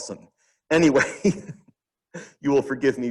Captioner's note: chuckles